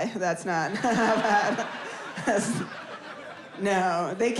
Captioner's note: audience laughs